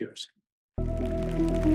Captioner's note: audience applauding